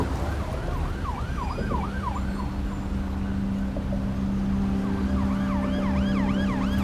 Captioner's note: siren wailing; sullen music